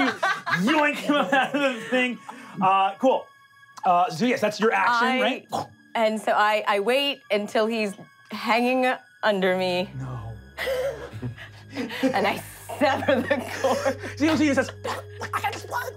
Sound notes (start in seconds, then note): 12.6 laughing; 14.8 choking